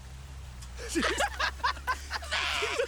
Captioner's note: all laughing